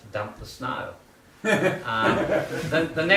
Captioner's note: laughter